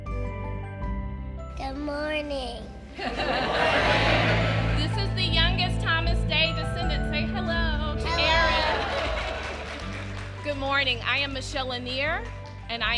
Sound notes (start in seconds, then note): 0.1 upbeat instrumental music; 3.0 audience laughs; 8.1 audience applauding